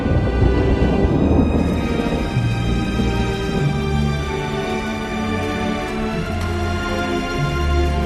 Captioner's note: raging fire